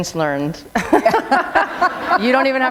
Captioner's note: laughter